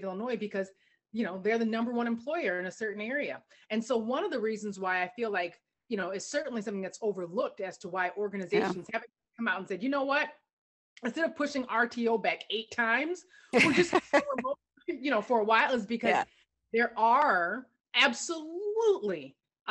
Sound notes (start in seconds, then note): 13.5 laughter